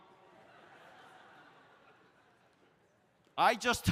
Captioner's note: audience laughs